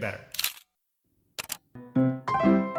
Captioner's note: camera shutter clicking; chill music